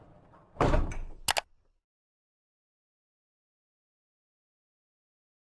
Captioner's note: computer mouse click